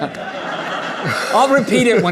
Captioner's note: laughter